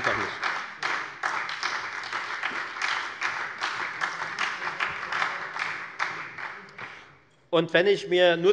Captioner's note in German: Beifall bei der FDP und der SPD